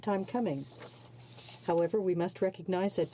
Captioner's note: speaking in french